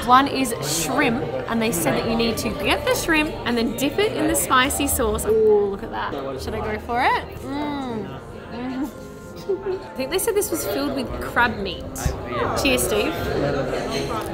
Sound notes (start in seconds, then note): 9.2 laughing